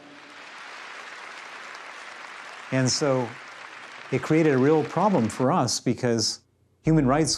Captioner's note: audience applauding